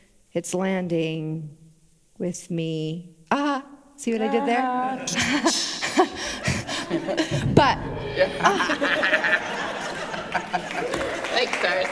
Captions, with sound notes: it's landing with me. Aha! See what I did there? [Laughter] But... Thanks D’Arcy.